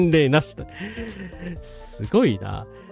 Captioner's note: laughter